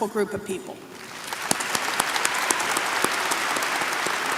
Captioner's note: applause